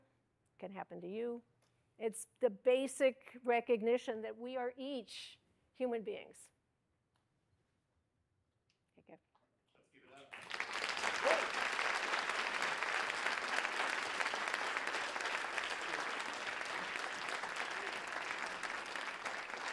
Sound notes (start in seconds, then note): 12.9 applause